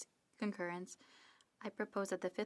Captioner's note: speaking French